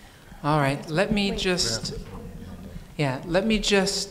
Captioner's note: mumbling